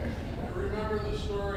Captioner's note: laughs